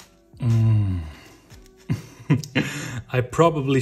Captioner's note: laughs